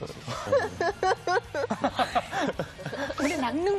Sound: laughing

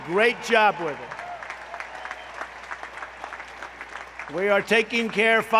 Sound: applause

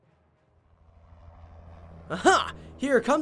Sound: rotors humming

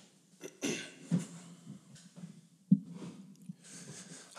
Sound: clears throat

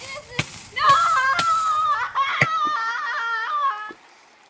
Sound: screaming

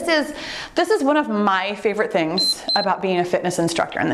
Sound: timer beeps

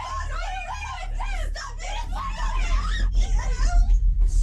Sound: yelling

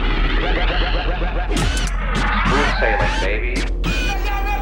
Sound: record scratch

